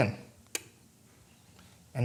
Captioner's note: mechanical clicking